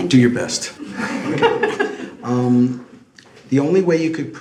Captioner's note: laughs